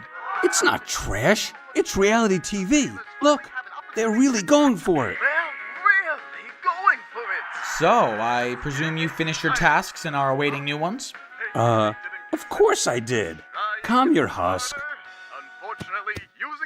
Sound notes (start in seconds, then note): 0.2 tv audience gasps; 7.1 tv audience cheers; 15.8 pat pat